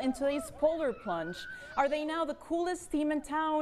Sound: woooh!

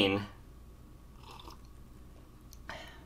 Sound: slurp

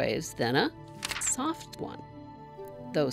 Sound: page turn

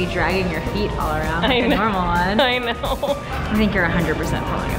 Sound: laughing

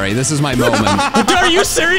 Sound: laughing

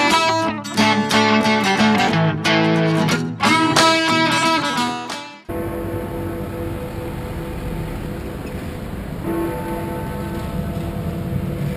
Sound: Big Ben bell chimes

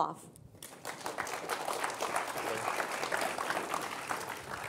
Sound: audience applauding

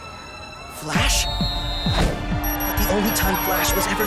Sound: whistle blowing

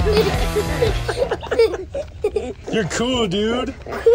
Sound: upbeat rock music; and children giggling

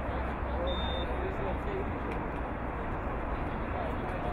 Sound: whistle blowing

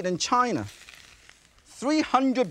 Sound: mushrooms sizzle

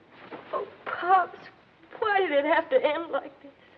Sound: crying

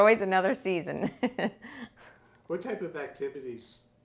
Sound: laughing

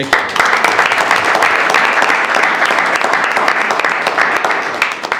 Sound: audience applauds

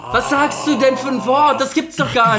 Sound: moans

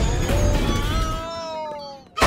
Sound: groaning

